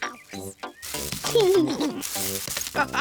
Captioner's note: laughs; all laugh